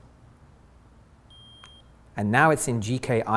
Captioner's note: beep